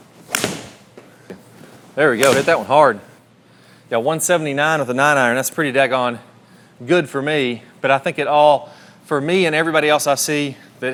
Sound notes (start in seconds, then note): 0.3 club whistling; 0.3 club striking golf ball; 1.9 club whistling; 2.2 club striking golf ball